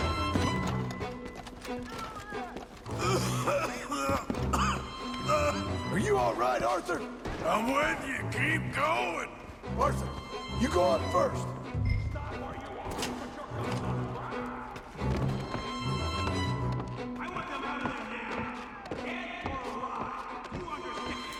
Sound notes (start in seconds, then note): 3.0 Arthur just keep coughing